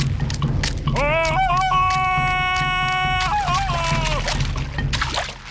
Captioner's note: bellows like tarzan